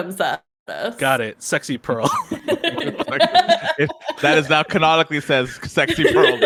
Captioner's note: everyone laughs